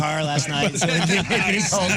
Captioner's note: laughing